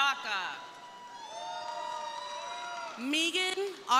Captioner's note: crowd cheering